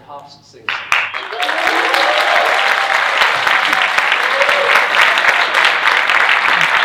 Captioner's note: audience cheering and applauding